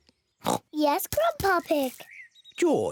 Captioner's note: oinks